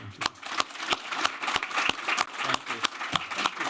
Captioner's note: applause